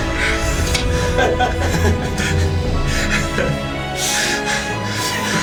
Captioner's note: laughter